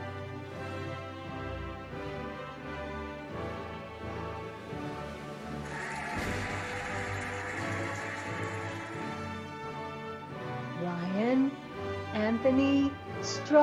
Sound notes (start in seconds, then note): 5.6 cheering and applauding